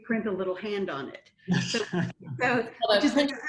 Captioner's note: laughter